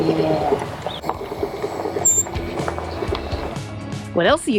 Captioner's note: windshield squeaking